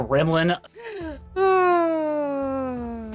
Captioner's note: sighs